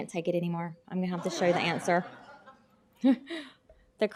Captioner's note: laughter